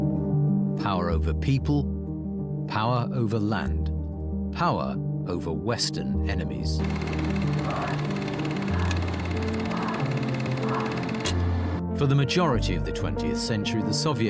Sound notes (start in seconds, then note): 6.8 film reel clicks and whirs; 7.0 crowd chants